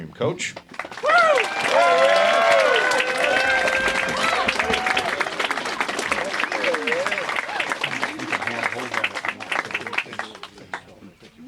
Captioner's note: applause